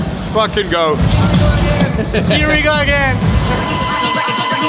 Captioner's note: laughs